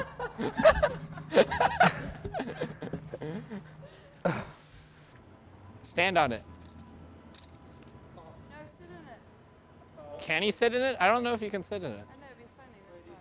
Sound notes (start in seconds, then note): 0.0 men laugh; 4.2 grunts softly